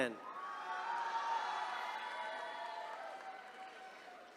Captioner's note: attendees cheering